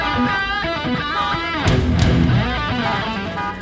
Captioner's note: car horn continues